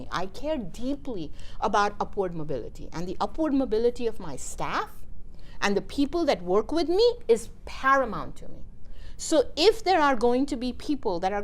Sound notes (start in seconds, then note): none